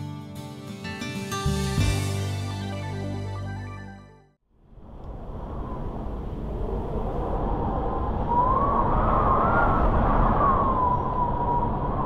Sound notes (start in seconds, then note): 4.6 wind blowing